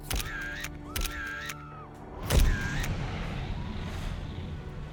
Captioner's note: camera clicking and whirring; screaming in background